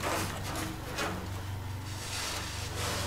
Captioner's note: crunching